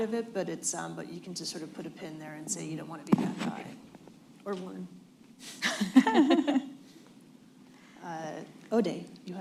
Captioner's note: laughter